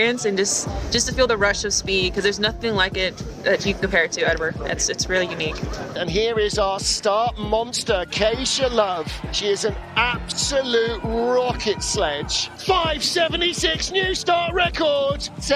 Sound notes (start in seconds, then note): 3.7 warm synth music; 8.0 crowd cheering; 14.3 warm synth music